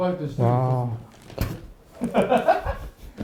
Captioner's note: cracks up